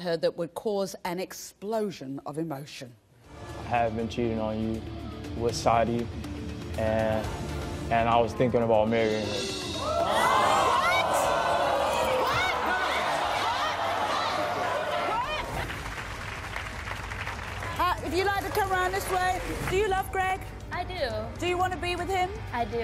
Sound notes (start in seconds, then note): 9.8 audience boos and yells; 16.2 audience applause